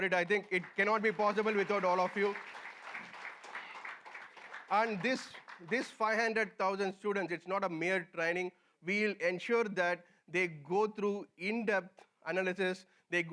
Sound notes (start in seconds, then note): 2.3 applause